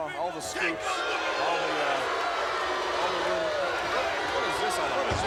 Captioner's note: crowd booing